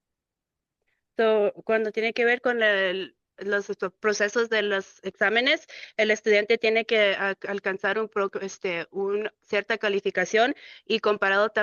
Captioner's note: speaking in Spanish